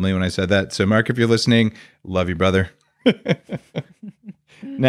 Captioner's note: laughs